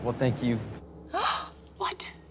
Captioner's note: Jackie gasps